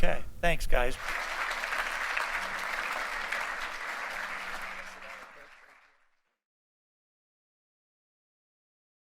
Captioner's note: applause